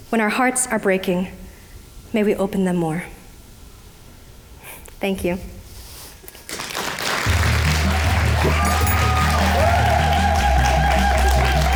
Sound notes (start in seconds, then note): 6.5 audience applauding, cheering